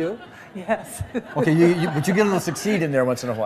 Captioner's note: laughter